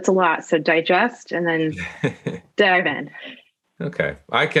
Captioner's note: laugh